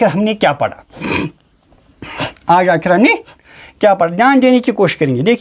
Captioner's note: nasal sound